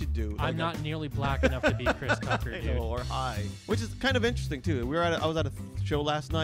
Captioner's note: laughs